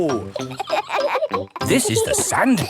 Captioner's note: kids laughing